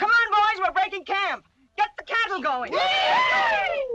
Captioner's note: cheering